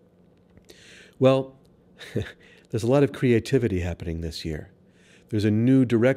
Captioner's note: chuckles